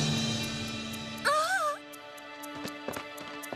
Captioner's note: gasps